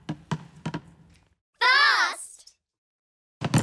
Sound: kids call out

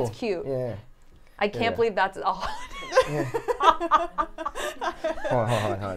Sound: laugh

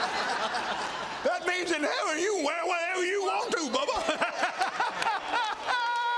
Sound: applause

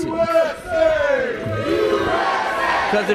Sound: crowd

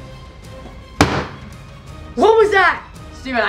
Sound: loud slamming

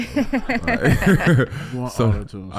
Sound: all laughing

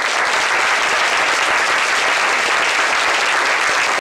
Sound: applause

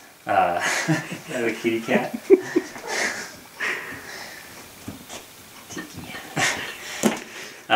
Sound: laughter

